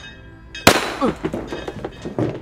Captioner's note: gunshot blasts; Smithey grunts